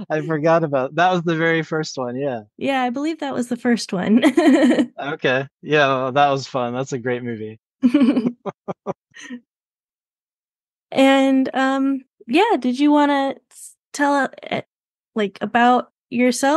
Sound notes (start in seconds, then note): 4.6 laughs; 7.8 chuckles